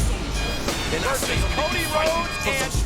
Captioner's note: graphics whooshing